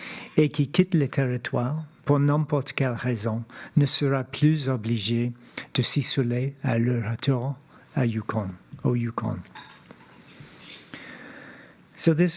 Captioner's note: speaking French